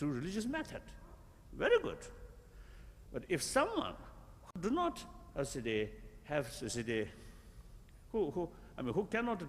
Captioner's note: foreign words